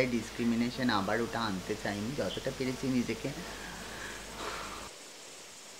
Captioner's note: sighs!